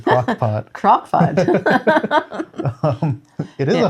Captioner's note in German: beide lachen